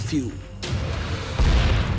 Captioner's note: explosion